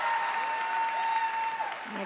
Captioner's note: crowd cheering